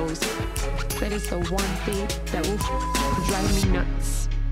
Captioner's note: beep